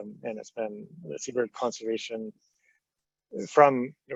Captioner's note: stammering